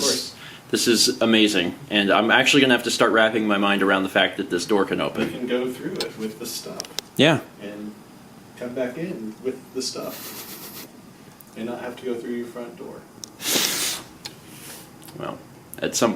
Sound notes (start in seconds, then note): 10.0 laughs; 13.4 relieved and humored exhale